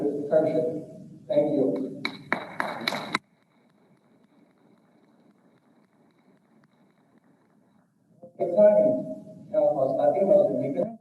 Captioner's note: distorted audio